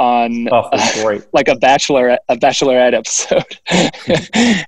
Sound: laughs

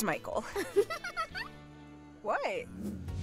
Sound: giggling

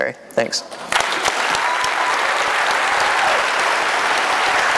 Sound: applause

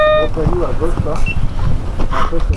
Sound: crowd

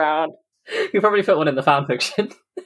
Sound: laughing

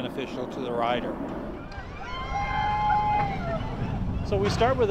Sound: passengers scream

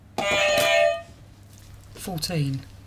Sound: beep beep; clang

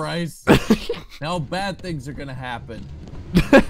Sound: laughs; laughter

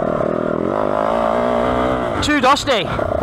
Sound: engine revving

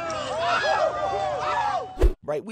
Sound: shouting

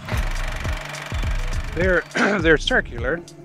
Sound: film reel clicks

